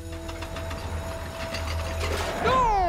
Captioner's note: clattering